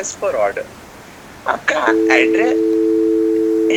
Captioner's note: phone disconnects